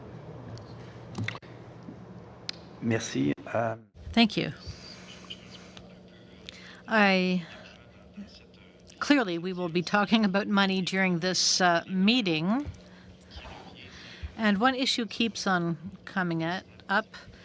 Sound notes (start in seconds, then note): 13.1 speaking in french